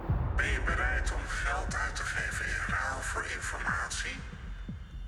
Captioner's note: distorted voice of the Mole